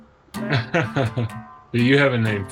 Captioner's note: laughs